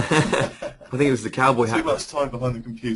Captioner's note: chuckle